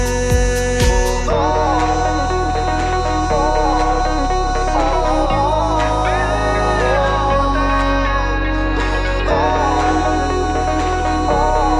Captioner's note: Humming